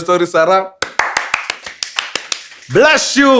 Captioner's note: applause